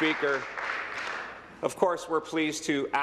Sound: applause

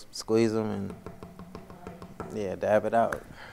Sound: taps on podium

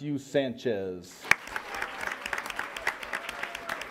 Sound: applause

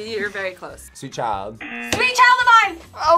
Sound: buzzer

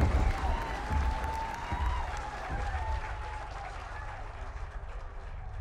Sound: crowd cheering

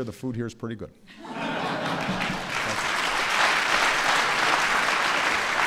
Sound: laughter and applause

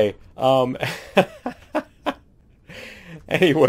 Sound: laughing

